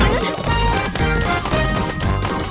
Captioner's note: flower pot banging rapidly